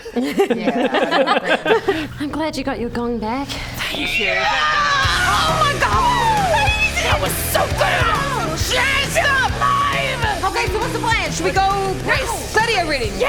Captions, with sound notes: *laughing* I'm glad you got your gong back Thank you *screaming* Oh my God! That was so good! I feel alive! Okay, so what's the plan? Should we go gladiator ring? - Rest